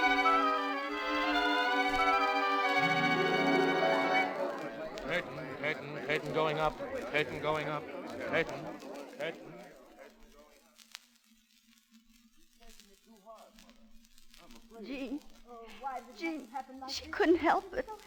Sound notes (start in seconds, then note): 6.0 crowd talking